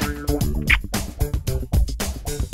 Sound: kiss

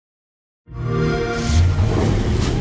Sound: xbox sound

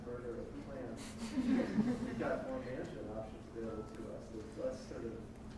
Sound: audience laughs

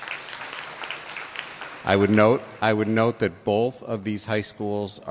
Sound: applause

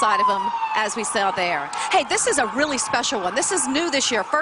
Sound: sirens

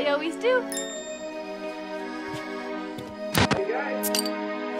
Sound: wink dings; static crackles; bottle cap clatters

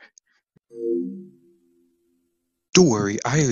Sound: PS2 Sound

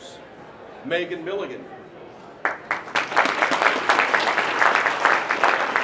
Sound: applause

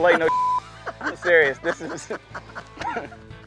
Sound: laughing

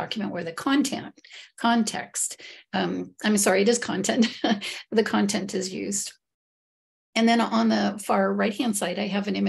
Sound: giggle

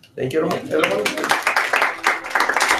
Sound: applause

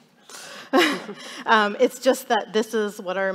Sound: chuckles

